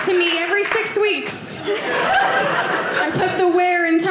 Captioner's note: audience laughing